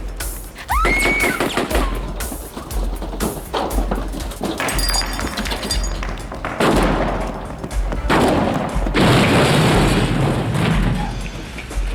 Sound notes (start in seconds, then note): 0.6 screams; 2.0 firing continues; 9.1 grenade explodes